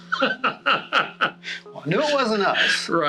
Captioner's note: laughs